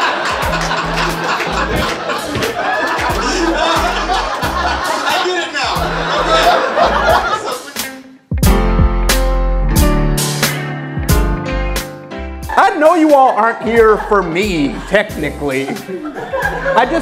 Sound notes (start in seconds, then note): 6.9 audience laughing; 9.2 upbeat music